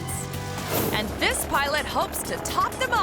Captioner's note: audio whooshing